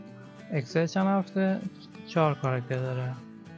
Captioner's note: in Persian